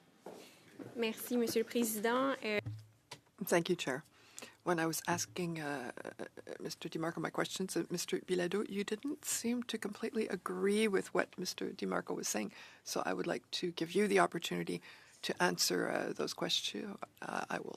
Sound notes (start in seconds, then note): 1.3 speaking French